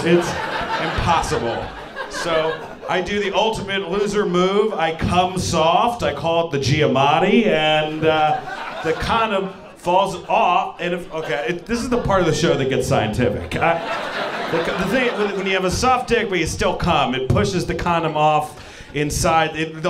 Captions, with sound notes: It's impossible. So I do the ultimate loser move. I cum soft. I call it the Giamatti, and the condom falls off. Okay, this is the part of the show that gets scientific. (audience laughing) When you have a soft dick, but you still cum, it pushes the condom off inside.